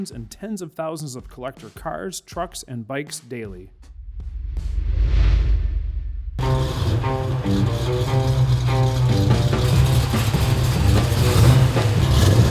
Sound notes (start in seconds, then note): 6.4 jaunty music; 9.0 engine rumbling